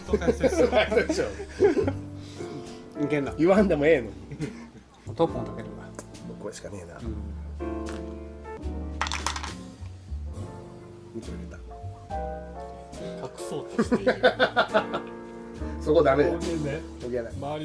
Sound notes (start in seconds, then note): 3.3 laughs; 9.0 sound of falling pieces; 13.8 laughs